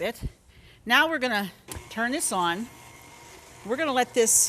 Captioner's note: mixer whirring